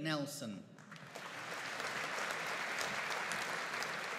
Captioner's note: audience applauding